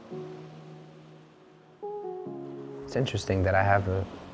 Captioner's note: gentle music; waves crashing